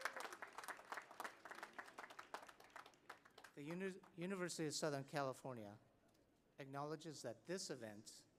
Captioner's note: cheers and applause